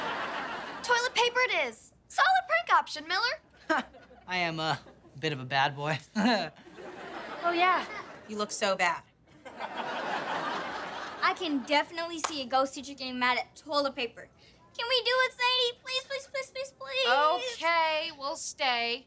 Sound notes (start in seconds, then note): 3.6 chuckles